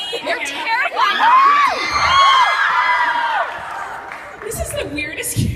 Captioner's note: audience cheers